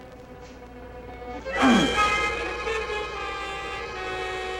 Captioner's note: dramatic music; Wayne grunting